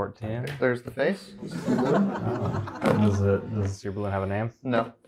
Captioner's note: audience laughter